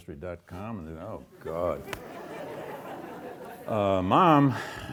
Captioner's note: audience laughs